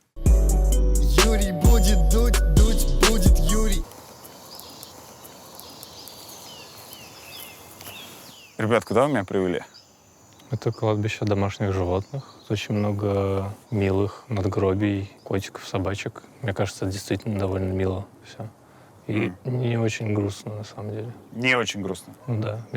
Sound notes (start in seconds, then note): 0.1 title card music; 3.8 footsteps, bird chirping